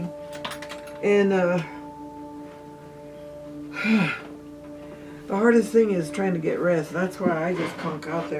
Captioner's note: sighs